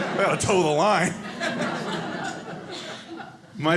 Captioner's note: audience laughing